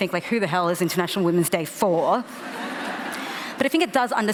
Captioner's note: laughter